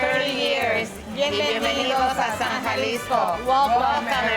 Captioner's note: speaking Spanish